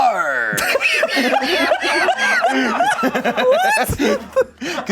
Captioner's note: laughs